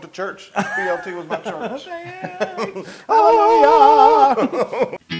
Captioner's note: laugh